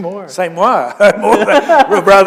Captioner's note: chuckle